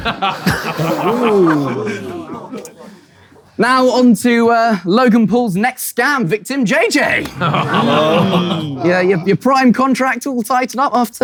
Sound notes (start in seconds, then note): 0.0 people in room laughing and ooh-ing; 7.2 people in room groaning